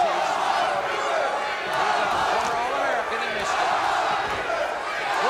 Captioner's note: audience chanting